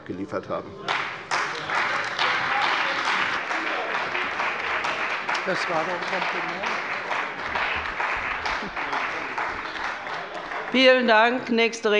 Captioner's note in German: Beifall bei der CDU und dem BÜNDNIS 90/DIE GRÜNEN